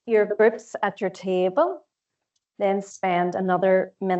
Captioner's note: audio distorts 05.39